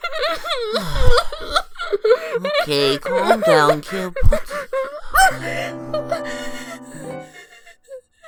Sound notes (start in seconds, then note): 1.3 sighs